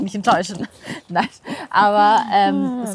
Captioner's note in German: Lachen